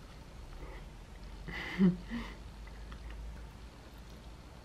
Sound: laughing because of a funny scene

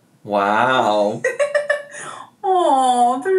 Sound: laughs

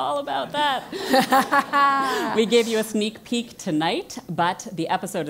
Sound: laugh

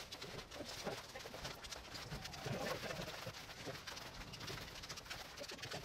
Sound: fast scurrying around noise

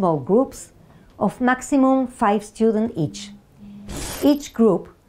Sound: graphics screeching

